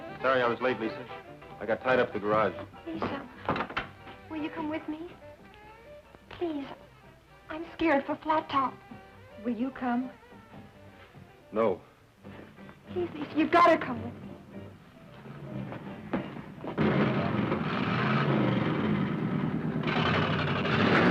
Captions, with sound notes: - Sorry I was late, Lisa. I got tied up at the garage. - Lisa, will you come with me? Please, I'm scared for Flat Top. - Will you come? - No. - Please, Lisa, you gotta come with me. (engines revving)